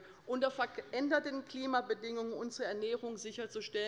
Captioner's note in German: none